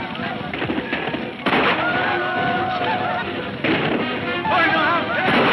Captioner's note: men shouting; guns firing; man speaking in foreign language